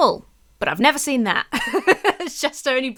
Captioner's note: laughs